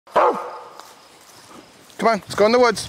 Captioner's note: barks